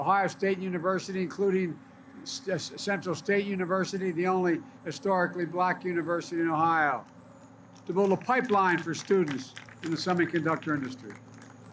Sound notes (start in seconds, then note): 7.7 applause